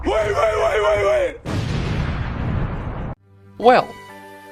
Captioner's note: explosion